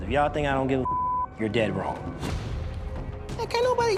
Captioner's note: beep